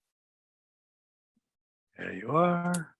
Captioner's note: silence